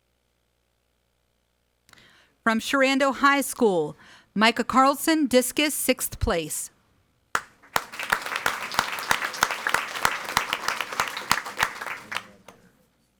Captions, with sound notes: From Sherando High School, Micah Carlson, discus sixth place. (audience applauding)